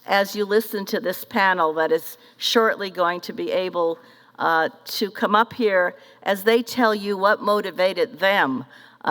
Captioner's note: none